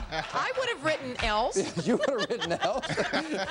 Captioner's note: laughing